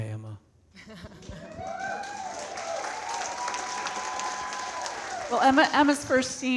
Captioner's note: audience cheering and clapping